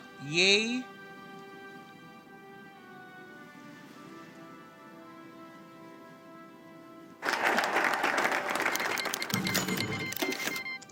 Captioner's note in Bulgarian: Аплодисменти